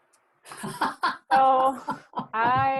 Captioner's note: laughs